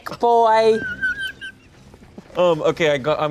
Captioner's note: laughs